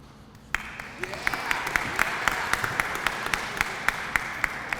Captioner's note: applause